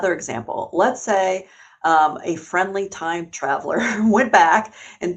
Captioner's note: chuckles